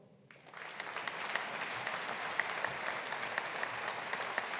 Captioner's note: audience applauding